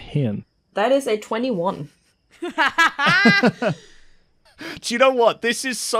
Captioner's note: laughter